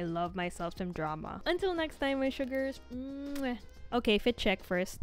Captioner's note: mwah